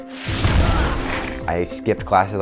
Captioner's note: car exploding